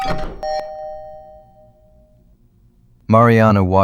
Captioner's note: SFX: Door + Chime